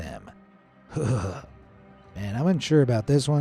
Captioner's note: narrator's voice quavers